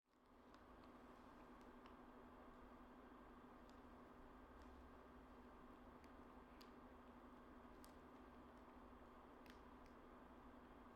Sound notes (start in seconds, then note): 5.0 video projector fan whirring